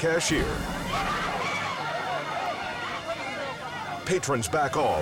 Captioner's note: woman screams